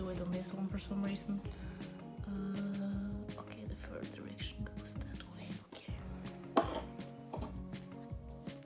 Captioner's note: whispering to self